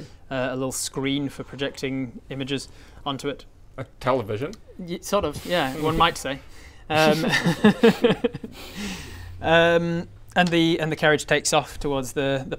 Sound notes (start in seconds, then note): 6.9 cheeky giggles